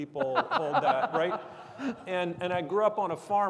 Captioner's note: people laughing